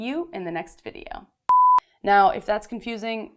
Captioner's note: beep